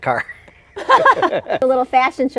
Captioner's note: laughing